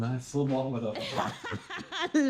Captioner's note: laughing